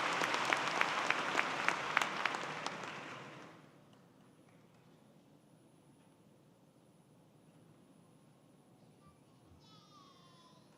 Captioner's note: applause